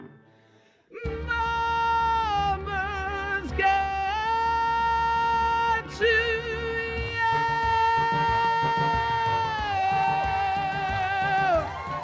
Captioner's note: applause as music crescendos and stops